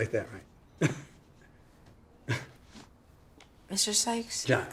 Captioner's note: chuckles